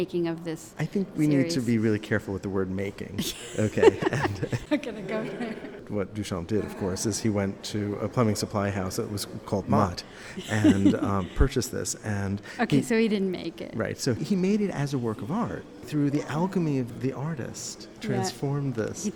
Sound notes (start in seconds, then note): 3.2 laughter